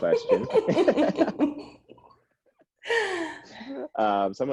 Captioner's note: all laughing